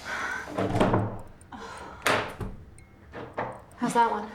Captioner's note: doorknob rattles